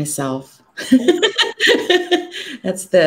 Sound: laughs

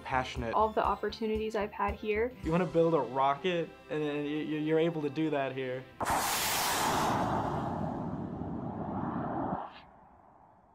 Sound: rocket noise

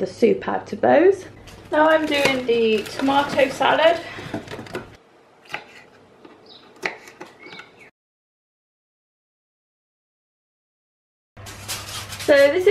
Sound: chopping sounds

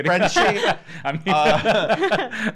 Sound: laughing

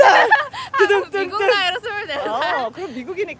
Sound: laughing

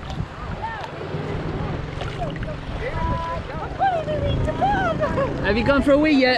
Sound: sound of the sea

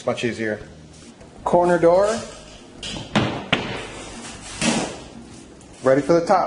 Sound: cabinet door closing

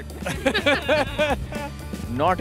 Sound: laughter

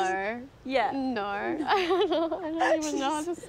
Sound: laughs

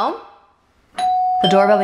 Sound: doorbell rings

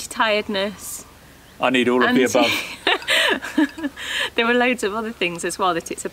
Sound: laughs

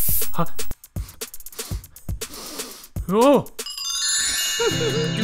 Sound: sniffs

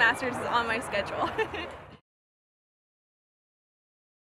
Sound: laugh

